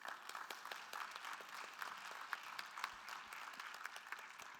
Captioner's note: attendees applauding